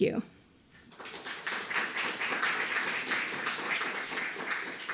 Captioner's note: audience clapping